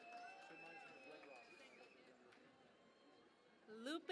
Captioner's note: cheering and Applause